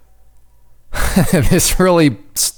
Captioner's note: laughing